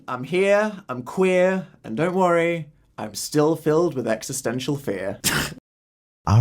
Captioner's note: laugh